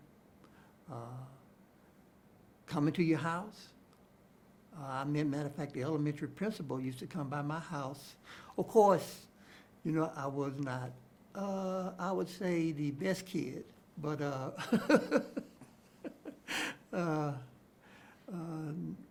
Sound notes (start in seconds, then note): 14.5 chuckles